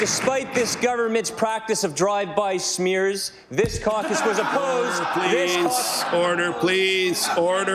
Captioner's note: applause